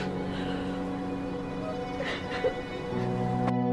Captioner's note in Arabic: تبكي